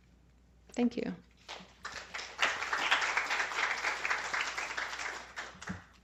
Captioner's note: applause